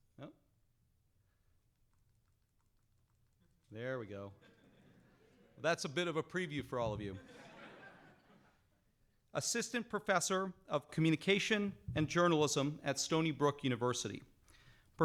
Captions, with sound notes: Oh. There we go. (audience laughing) That's a bit of a preview for all of you. (audience laughing) Assistant Professor of Communication and Journalism at Stony Brook University.